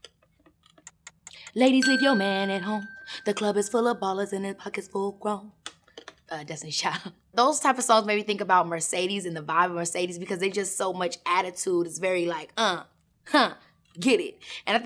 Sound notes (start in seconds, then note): 1.8 ping